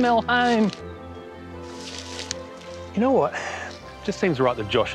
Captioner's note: chuckles